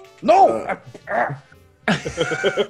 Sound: laugh

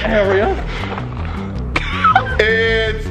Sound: laughter

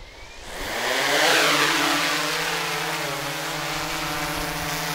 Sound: propeller noise

